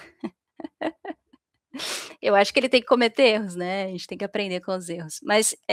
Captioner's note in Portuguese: risadas